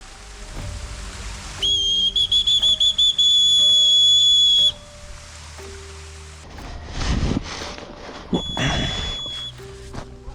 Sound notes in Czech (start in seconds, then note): 1.6 pískot; 8.3 pískot